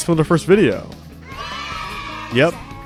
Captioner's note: children cheering sound effect